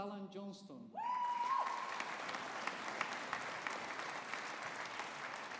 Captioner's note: audience applauding